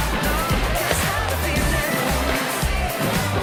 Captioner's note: stomping